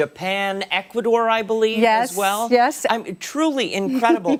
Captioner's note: laughter